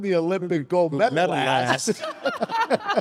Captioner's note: laughs